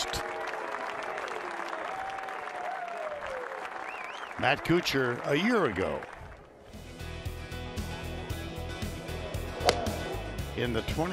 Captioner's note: cheers and applause